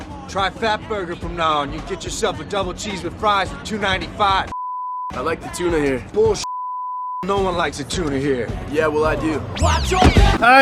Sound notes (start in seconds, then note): 6.4 beep